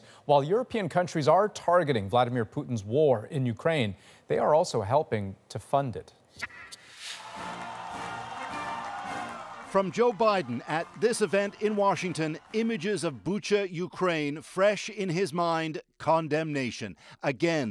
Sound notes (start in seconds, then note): 12.1 cheers and Applause